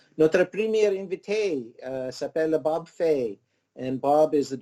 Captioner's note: speaking in foreign language